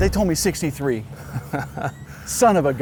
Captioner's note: laughs